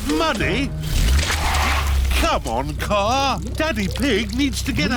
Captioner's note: wheels screech